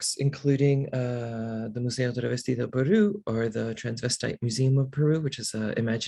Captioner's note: non-english